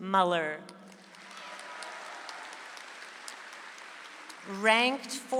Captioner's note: audience applauds